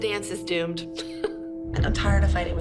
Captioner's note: laughs